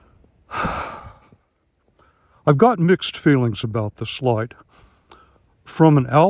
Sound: sigh

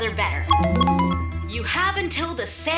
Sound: phones dinging

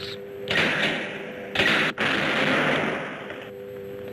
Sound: levers banging

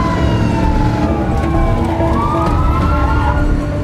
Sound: dramatic music; tires screeching

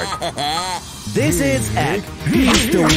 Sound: moaning

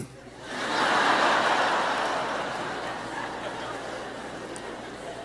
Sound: audience laughing

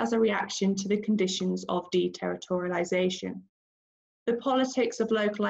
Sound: none

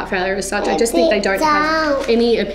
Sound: chatters

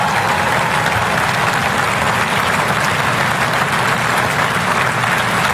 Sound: applause

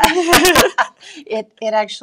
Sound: laughing

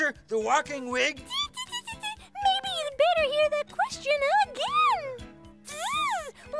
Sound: chuckles

